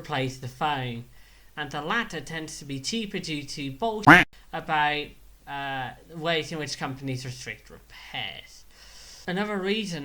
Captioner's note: quack